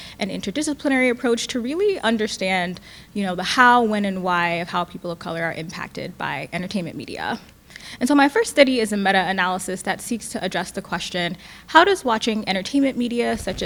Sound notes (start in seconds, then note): none